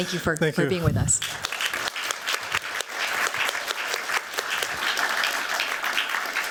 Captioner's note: applause